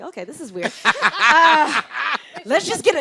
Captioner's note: laughs